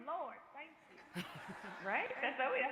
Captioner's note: crowd laughing